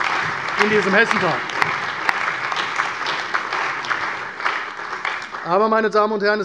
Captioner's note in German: Allgemeiner Beifall